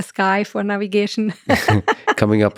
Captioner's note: laughs